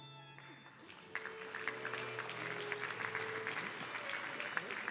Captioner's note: audience clapping